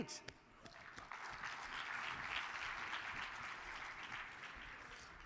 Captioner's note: audience applauds